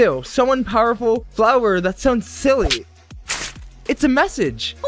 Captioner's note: paper crumple sound